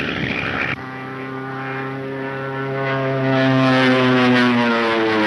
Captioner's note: engine whining